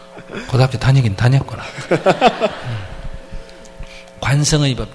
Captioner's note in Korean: 웃음